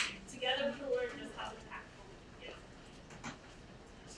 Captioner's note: speaking away from mic